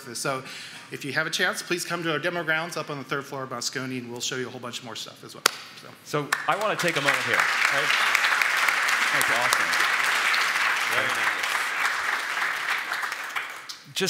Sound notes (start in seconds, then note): 8.1 applause